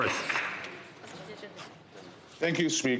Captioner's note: some Applause